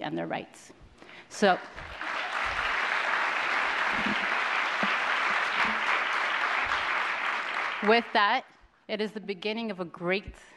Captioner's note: applause